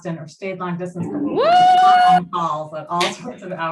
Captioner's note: cheering